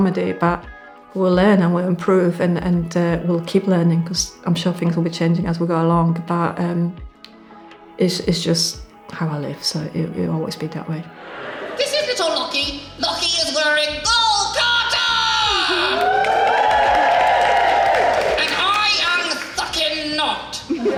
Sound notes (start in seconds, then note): 16.2 audience Cheers